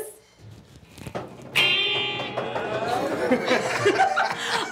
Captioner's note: drumroll stomping